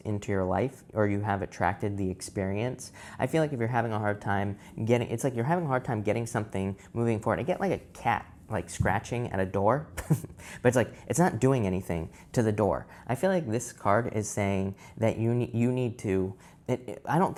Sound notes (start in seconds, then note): 10.2 laughs